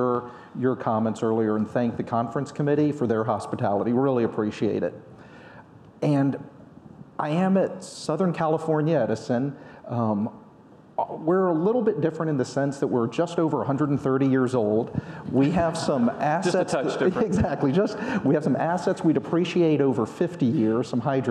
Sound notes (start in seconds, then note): 15.5 audience laughing; 17.9 laughs